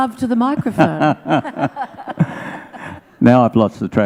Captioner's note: laughs